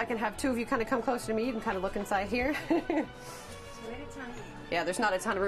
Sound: laughs

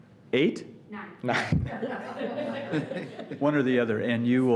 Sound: laughs

